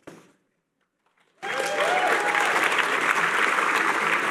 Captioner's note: cheering